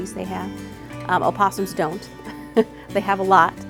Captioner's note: laughs